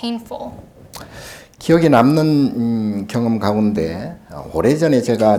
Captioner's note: speaking Korean